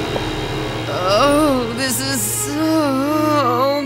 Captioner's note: moans